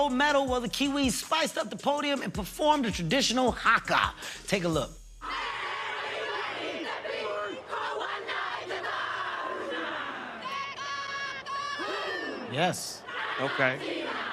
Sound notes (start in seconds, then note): 7.8 all chanting in native language